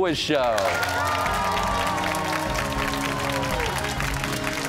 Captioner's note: cheers and applause